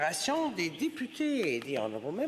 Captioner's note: speaking French